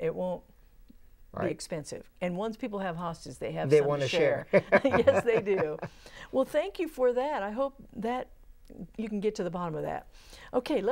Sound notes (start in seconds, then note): 4.4 laughing